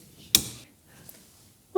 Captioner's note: click